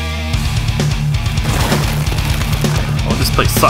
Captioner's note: heavy rock music; large explosion